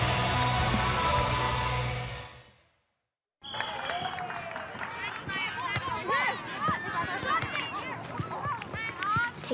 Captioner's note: crowd chatter